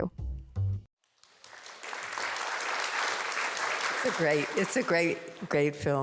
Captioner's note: audience applauding